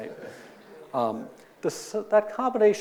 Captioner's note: audience laughing